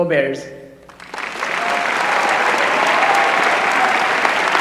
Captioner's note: applause